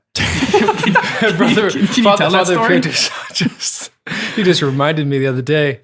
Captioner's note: group laughing